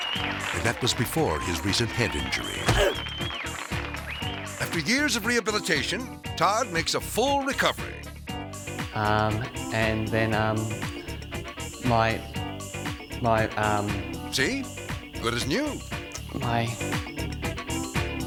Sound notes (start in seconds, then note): 2.6 grunts